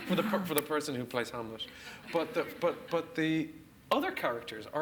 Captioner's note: laughs